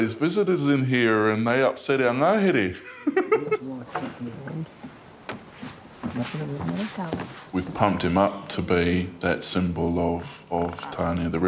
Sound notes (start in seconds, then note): 2.8 laughs; 3.1 visitors chatting